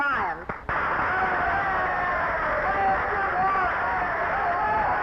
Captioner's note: audience cheering